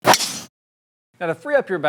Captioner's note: golf ball whooshing